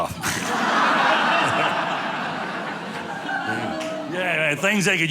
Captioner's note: audience laughing